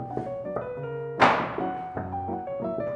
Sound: knock, knock, knock / Knock

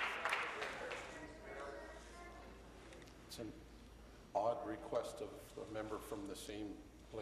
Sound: applause

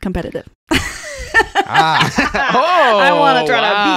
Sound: laughing

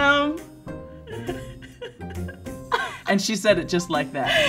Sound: laughs

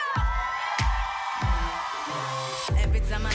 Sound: cheering and applause

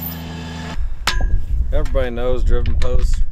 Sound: metal clanging

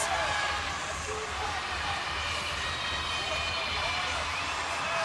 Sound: crowd cheering

